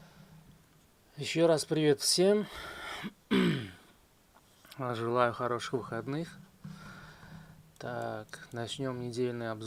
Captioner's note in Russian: откашливается